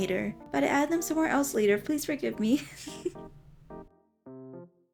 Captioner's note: chuckles